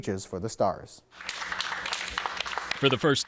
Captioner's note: team applauding